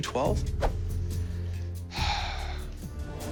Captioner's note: sighs; tense music